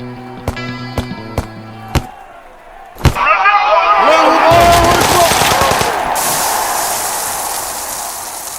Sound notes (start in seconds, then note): 4.3 grenade blast; 6.6 audience cheering